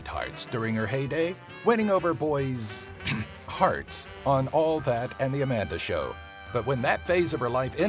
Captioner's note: ahem